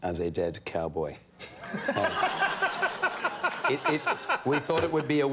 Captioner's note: laughing